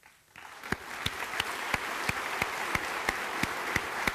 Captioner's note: applause